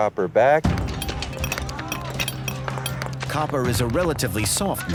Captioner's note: hammering, indistinct chatter